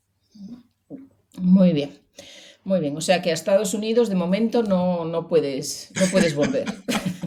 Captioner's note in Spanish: risas